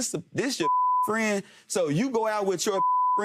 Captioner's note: beeping